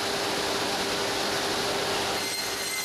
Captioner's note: saw noises